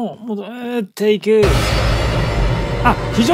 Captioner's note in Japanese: 効果音